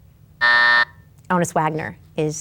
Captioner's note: timer buzzes